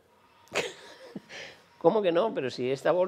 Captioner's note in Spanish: ríe